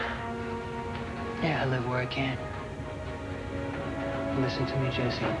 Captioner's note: sighs